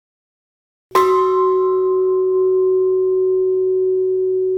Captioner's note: bell ringing